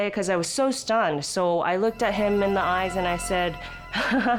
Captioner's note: laughs